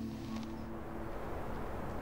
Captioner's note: heavy winds